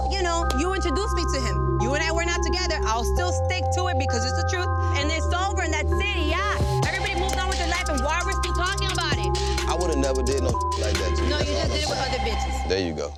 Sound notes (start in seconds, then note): 10.5 beep